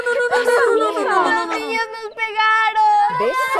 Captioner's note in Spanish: llorando